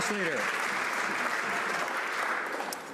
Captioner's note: some Applause